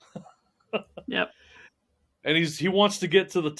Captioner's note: laughing